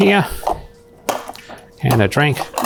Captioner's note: dishes rattling